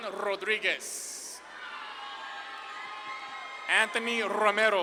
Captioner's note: audience claps and cheers